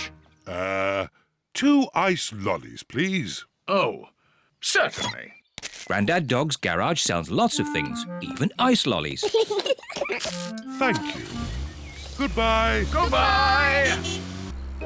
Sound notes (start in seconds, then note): 9.2 both laugh; 13.6 slurping